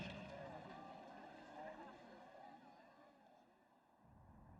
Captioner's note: crowd murmuring